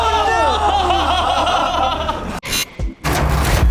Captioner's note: laughter